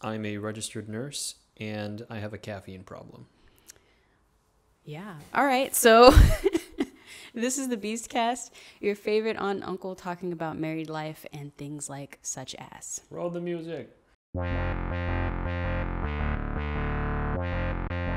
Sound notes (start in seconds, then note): 6.5 laughs; 14.3 rhythmic electronic music